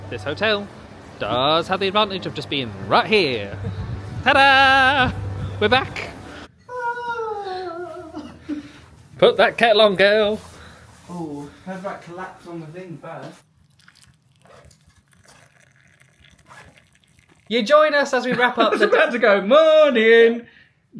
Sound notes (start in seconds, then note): 6.2 sighs operatically; 13.5 water trickling; 18.2 laughing